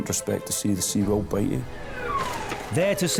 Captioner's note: alarm blaring